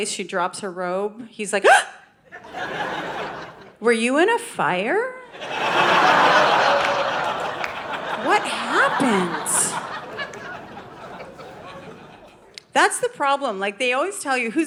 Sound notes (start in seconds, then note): 1.7 gasps; 2.3 audience laughing; 5.3 audience laughing